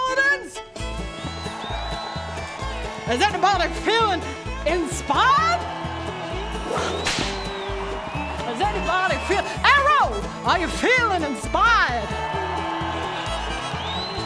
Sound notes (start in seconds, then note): 6.7 whip crack